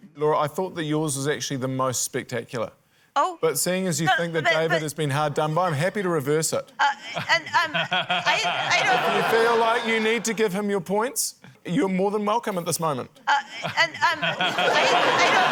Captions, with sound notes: - Laura, I thought that yours was actually the most spectacular. - Oh! - But seeing as you think that David has been hard done by, I'm happy to reverse it. - (STAMMERS) (LAUGHTER) - If you feel like you need to give him your points, you're more than welcome at this moment. - (STAMMERS) (LAUGHTER)